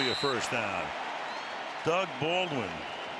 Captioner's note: cheering